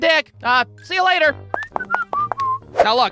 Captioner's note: whistling